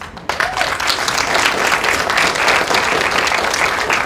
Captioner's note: applause